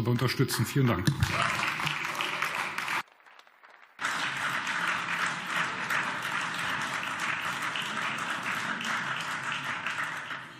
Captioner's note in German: Beifall